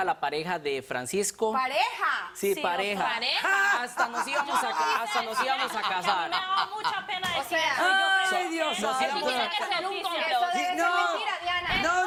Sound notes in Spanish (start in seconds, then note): 3.4 Carcajadas de Dra. Polo